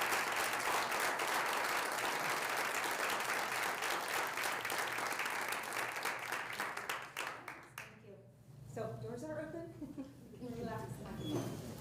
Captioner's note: applause